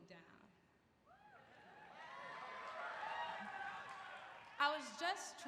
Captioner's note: applause